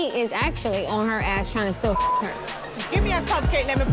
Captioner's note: beep